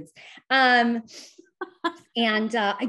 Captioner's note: chuckles